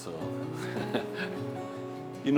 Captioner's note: chuckles